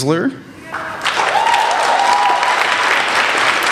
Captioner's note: applauding